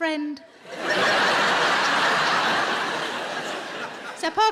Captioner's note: audience laughing